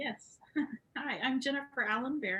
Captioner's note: laughs